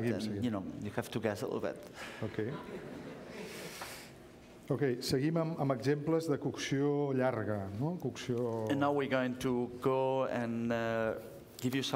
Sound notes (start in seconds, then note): 6.1 speaking catalan